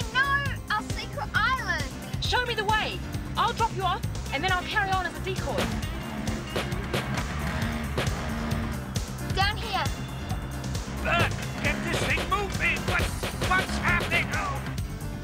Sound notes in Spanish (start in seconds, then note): 7.1 estallido de scooter